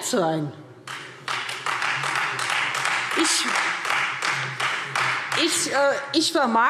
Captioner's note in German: Beifall Freie Demokraten